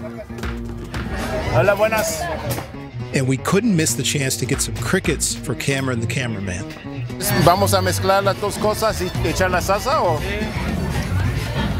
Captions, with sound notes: (speaking in a foreign language) and we couldn't miss the chance to get some crickets for camera and the camera. (speaking in a foreign language)